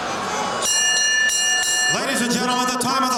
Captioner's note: bell ringing